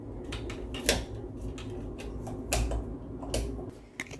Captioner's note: flicking the light switch